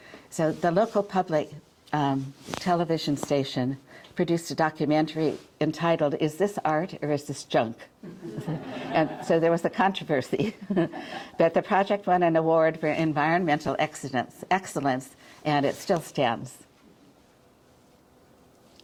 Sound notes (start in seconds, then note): 8.1 audience chuckling